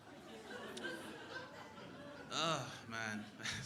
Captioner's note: crowd laughing